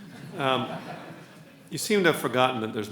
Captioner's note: laughs